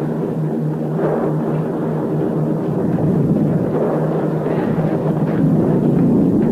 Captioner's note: plane engines roaring continues